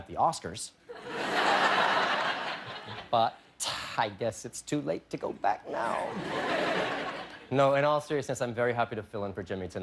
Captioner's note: laughter